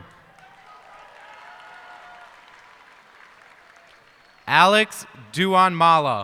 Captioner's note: cheers and applause